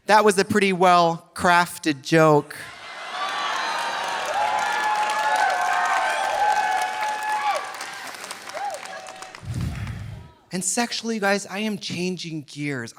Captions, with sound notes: That was a pretty well crafted joke. (audience laughing) (audience applauding) And sexually, you guys, I am changing gears.